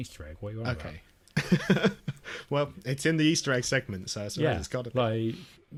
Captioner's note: laughs